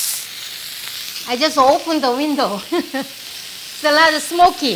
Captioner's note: laughs